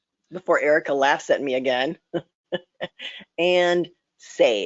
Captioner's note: laughs